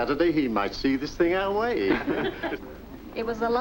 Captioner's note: laughter